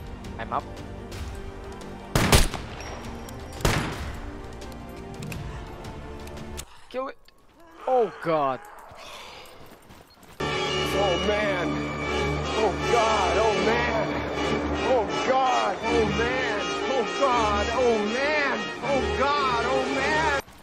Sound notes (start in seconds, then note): 2.1 gunshots